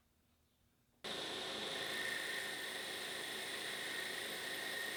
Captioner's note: machine whirring